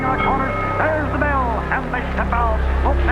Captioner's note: bell dings